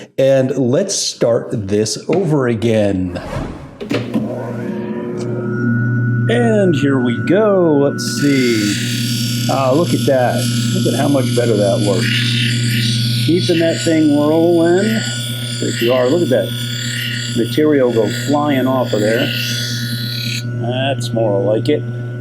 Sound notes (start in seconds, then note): 3.2 machine rotating; 9.0 machine grinding